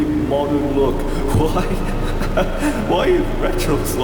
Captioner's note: laughter